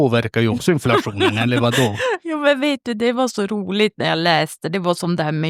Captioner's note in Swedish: skratt